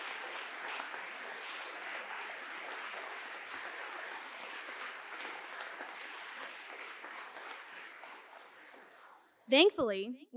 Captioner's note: applause